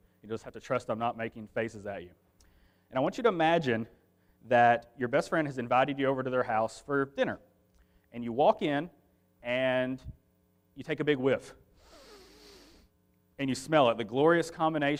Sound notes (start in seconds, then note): 11.8 sniffing